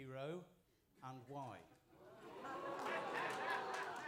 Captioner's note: applause